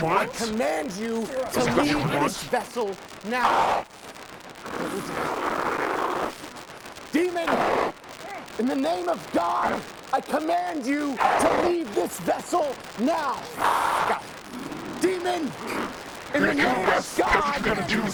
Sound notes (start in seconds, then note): 4.7 demon snarling; 13.5 demon roaring